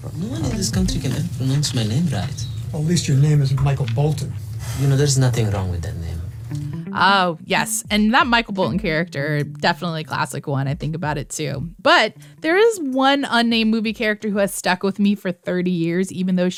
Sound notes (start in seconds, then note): 0.1 soundbite of tv show, "office space"; 3.8 As Michael Bolton